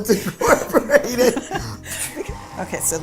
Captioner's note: laughing